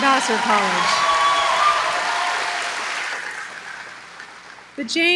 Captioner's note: applause